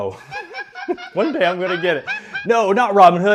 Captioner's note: laughter